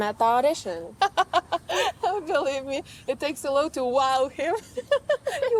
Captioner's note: laughs